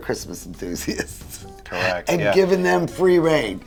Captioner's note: lauging